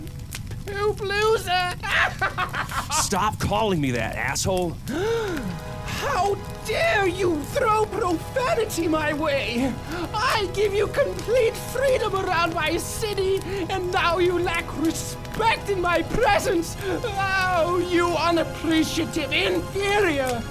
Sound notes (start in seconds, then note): 1.5 laughs; 4.8 gasps